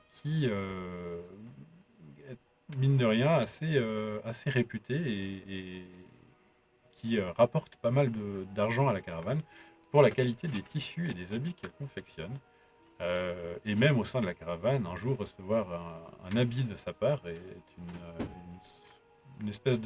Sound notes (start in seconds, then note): none